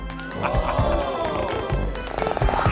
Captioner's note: chuckles